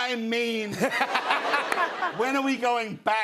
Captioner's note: laughter